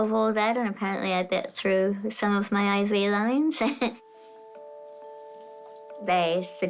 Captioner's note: chuckles